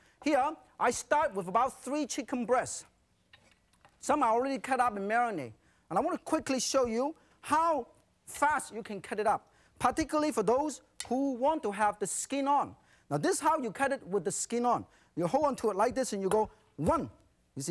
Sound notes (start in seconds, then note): none